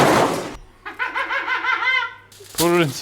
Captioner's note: laughing